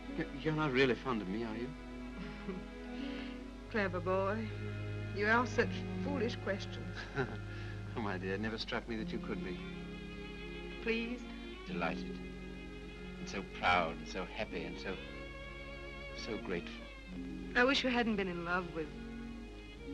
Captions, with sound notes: You're not really fond of me, are you? (Norah chuckles) - Clever boy, you ask such foolish questions. - (chuckles) Oh, my dear. It never struck me that it could be. - Pleased? - Delighted. And so proud and so happy and so, so grateful. - I wish you hadn't been in love with...